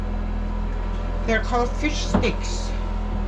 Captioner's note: none